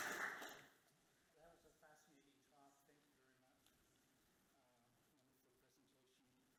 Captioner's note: audience clapping